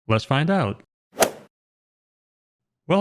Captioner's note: golf swing sound effect